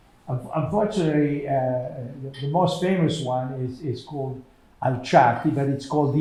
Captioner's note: non-english